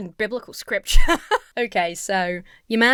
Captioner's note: laughs